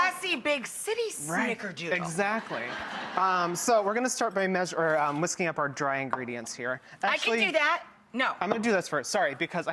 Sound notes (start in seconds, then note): 2.1 audience laughing